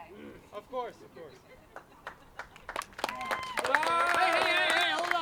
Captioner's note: applause